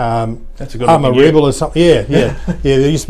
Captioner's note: chuckles